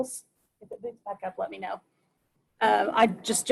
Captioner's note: murmurs